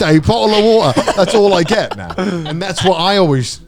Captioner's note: laughing